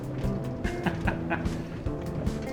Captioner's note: laughs